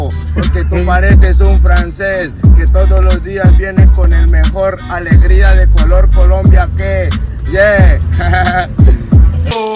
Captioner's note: laughter